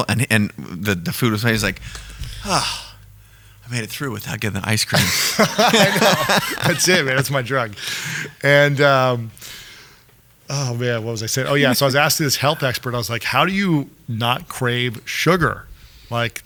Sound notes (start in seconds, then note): 4.9 laughing